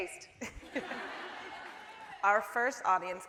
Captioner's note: laughing